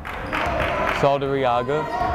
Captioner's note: yelling